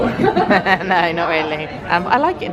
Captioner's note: both laughing